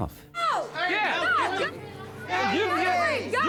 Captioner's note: screaming